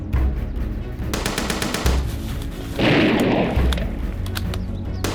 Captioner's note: gunfire rattles